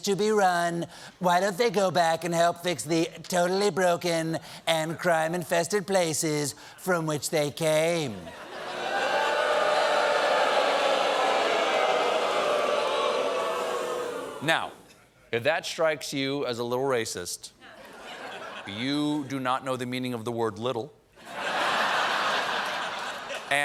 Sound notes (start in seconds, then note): 11.5 booing